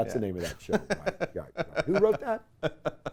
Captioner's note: laughs